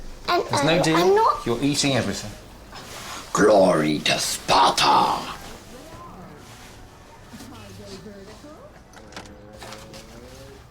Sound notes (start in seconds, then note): 2.4 deep voice